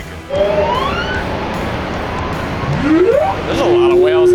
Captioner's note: machines whirring; whales singing